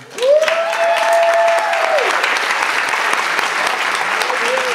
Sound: audience applauds

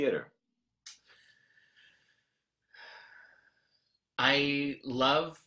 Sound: deep breath

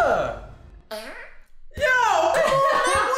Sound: child farts

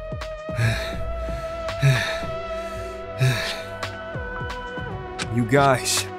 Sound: panting

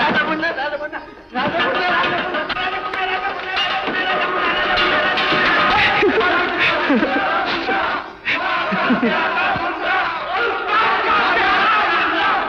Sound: celebratory exclamations

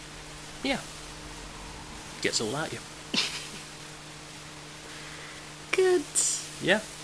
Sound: laughs

